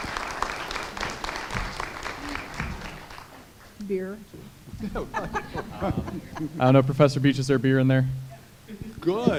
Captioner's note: applause